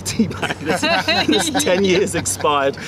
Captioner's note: laughter